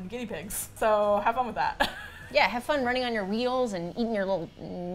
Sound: laughs

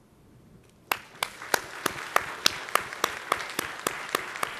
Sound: audience applauds

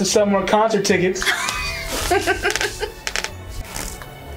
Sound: laughter

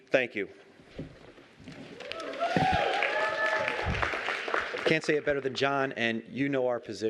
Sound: cheering and applause

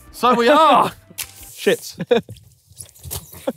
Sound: giggling

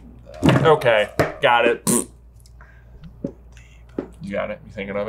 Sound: makes fart noise

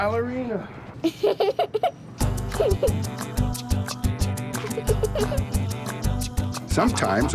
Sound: laughing

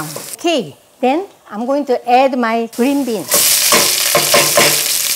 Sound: sizzling

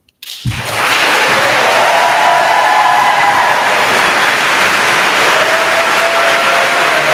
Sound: attendees applauding; attendees cheering

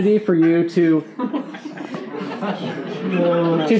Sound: laughing

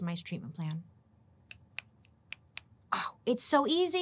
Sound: fingers snapping

